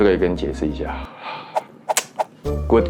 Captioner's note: sighs; tsks